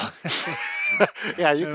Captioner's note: laughs